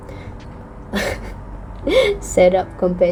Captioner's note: laughs in pain